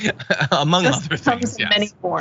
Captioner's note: laugh